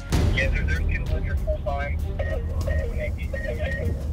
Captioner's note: police radio